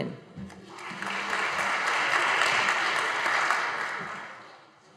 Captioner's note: audience applauding